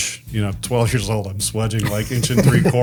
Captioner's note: group laughs